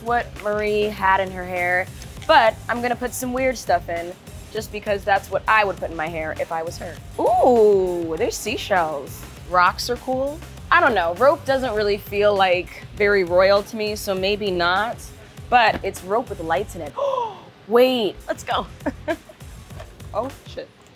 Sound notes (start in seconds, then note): 16.9 gasping; 18.7 chuckling